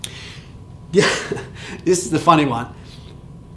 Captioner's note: chuckles